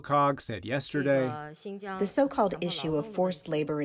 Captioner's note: through translator